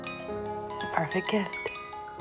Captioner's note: voiceover